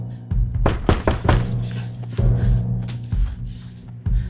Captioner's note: knocking continues